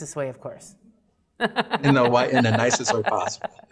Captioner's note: laughs